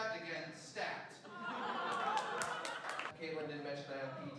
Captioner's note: laughing